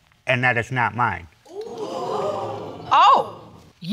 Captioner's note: audience gasps